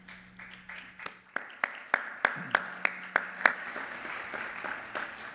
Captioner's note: applause